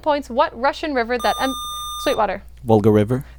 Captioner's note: buzzer